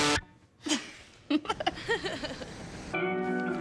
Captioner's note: laughing